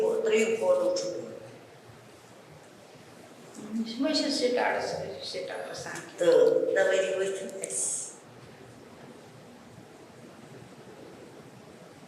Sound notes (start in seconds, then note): 3.3 non-english speech